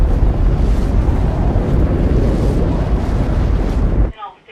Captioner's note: engine blasting